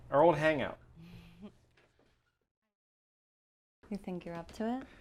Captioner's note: Julie giggles